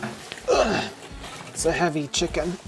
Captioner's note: sighing